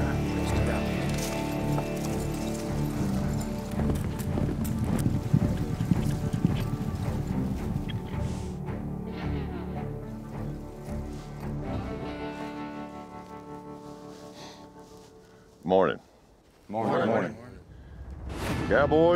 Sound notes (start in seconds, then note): 4.4 hoofbeats